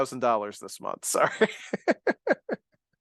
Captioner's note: chuckles